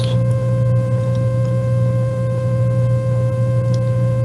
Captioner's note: buzzing sound